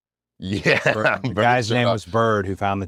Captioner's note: laugh